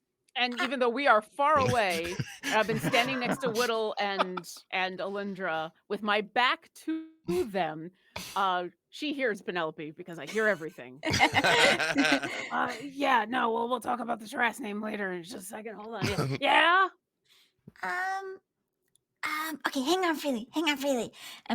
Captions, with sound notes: - And even though we are far away, I have been standing next to Widdle and Alyndra with my back to them. She hears Penelope, because I hear everything. (laughs) Yeah, no, we'll talk about the dress name later, just a second, hold on. Yeah! - Okay, hang on, Freely, hang on, Freely.